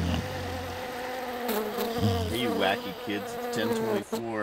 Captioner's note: snoring; mosquitoes buzzing